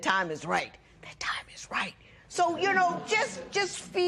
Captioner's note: whispering